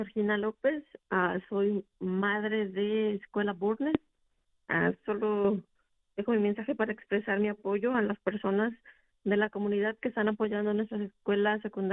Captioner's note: speaking spanish